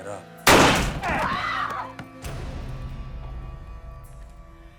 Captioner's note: screams